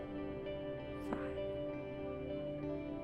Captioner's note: quietly